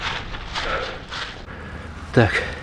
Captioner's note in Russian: вздыхает